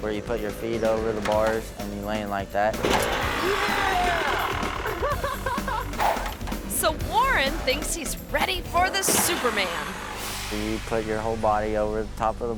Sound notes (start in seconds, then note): 2.9 motorbike revs; 2.9 ramp clangs; 3.1 laughs; 5.4 motorbike revs